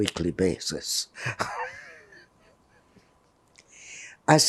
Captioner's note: laughing